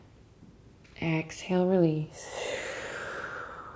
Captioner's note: breathing